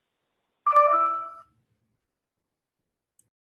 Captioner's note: computer tone